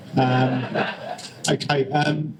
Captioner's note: laughter